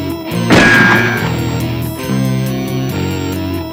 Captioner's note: gun fires